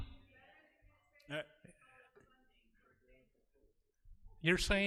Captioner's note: audience talking